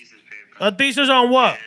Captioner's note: non-english Speech